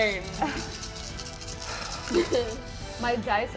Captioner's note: dice rattling